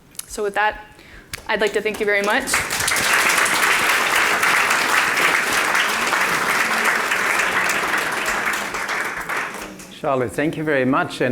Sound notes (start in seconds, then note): 1.3 audience clapping